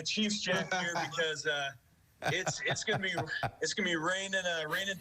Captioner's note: laughter